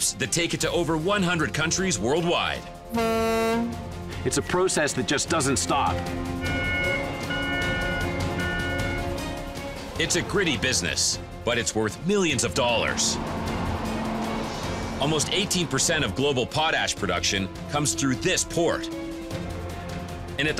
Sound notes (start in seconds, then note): 2.8 ship horn; 6.4 buzzer